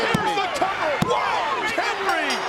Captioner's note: bell dings